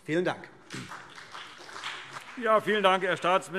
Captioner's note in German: Beifall CDU und BÜNDNIS 90/DIE GRÜNEN